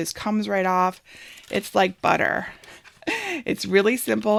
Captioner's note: laughs